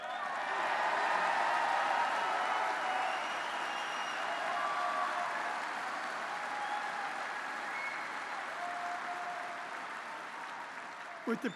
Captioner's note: applause